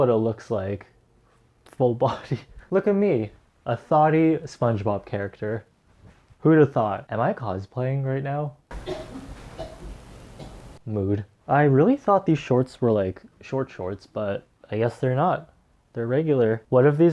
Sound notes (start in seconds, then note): 2.1 laughs; 8.7 coughing